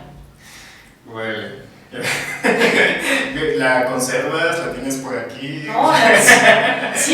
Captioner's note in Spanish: se ríe